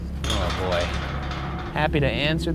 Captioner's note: gate squeals and clanks